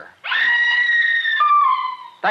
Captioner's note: siren wailing